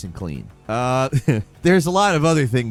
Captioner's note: chuckles